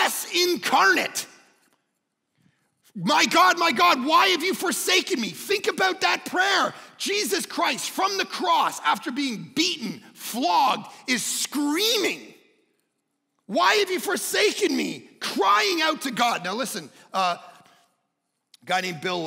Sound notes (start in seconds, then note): none